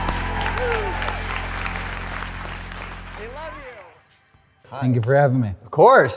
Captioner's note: audience applauds